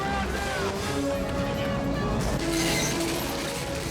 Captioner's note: indistinct shouting